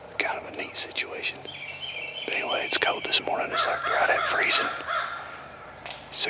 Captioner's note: whispering